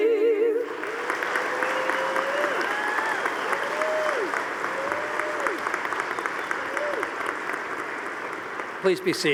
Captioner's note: audience applauding